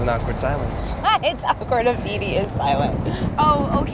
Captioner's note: laughs